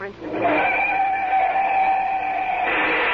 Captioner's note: screams